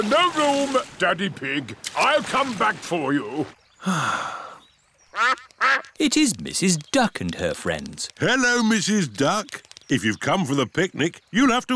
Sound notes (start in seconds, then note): 3.8 sighs; 5.1 quacking